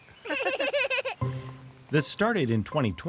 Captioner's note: children laughing